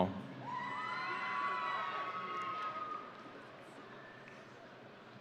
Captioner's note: audience cheering